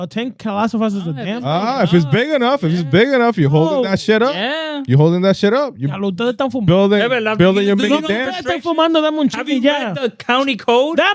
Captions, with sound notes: A tank calcifies is a dam. If it's big enough, if it's big enough, you're holding that shit up. You're holding that shit up. (Speaking In Foreign Language) Have you read the county code?